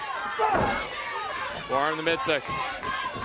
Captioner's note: crowd chatter